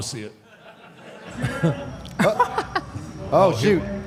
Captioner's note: audience laughs